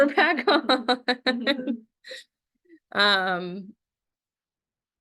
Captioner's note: laughs